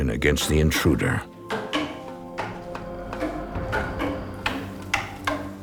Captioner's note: clunking intensifies